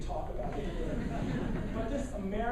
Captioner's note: laughing